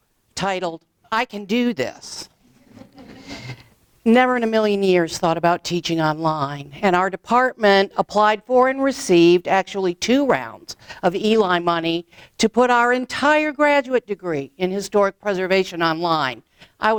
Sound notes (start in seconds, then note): 2.6 audience laughs